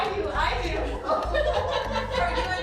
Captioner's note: laughing